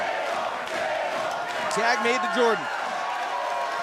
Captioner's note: crowd cheering